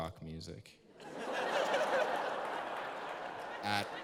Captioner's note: laughter